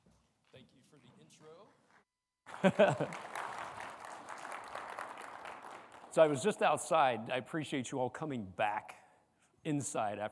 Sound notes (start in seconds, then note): 2.4 audience clapping; 2.5 chuckles